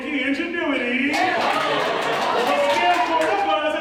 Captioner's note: ensemble cheers